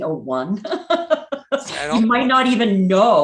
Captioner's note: laughing